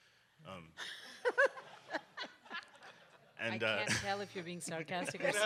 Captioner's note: audience laughs